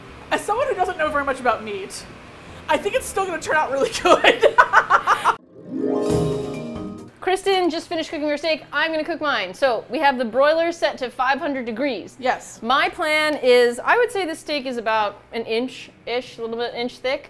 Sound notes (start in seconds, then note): 3.9 laughs